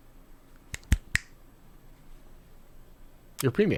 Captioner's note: fingers snapping